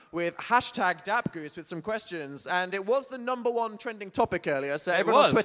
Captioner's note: none